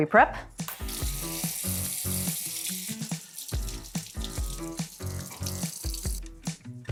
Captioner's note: upbeat music; water rustling